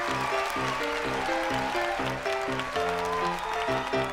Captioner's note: crowd cheers